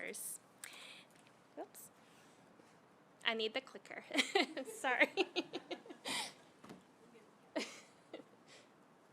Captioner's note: laughter